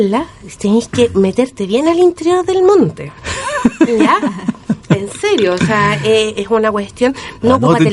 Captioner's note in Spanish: risas